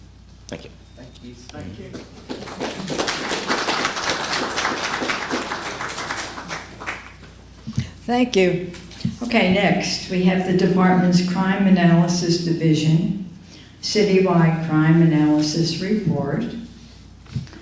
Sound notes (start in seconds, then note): 1.9 applause